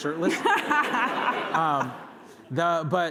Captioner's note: laughter